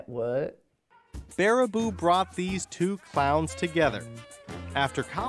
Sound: voiceover

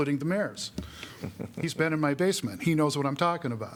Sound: laughter

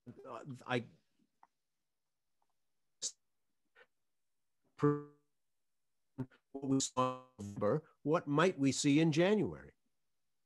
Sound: audio break

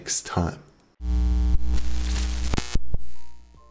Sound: static

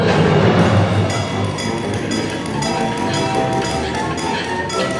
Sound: metal clinking

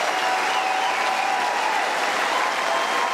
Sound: cheering & Applause

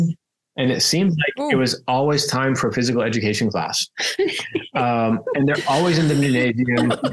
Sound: laugh

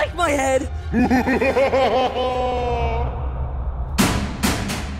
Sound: headless magician laughs

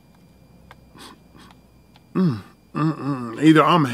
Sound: sniffs

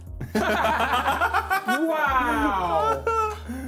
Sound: laughing

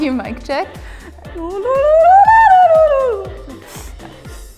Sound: ululating

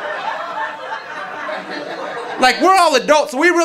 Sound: audience laughing

